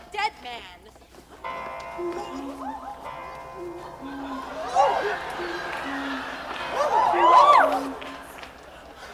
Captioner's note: clock chiming